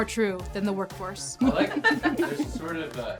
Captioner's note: people laughing